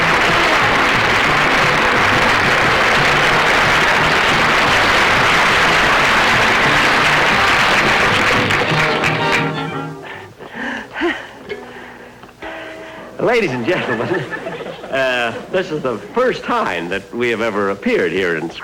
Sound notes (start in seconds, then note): 10.0 Jack Panting